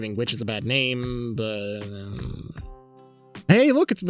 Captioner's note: mutters